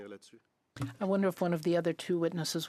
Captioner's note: speaking French